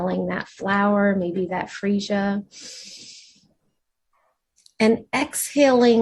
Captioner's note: inhales deeply